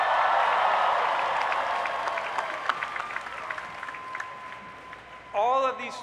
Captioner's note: cheering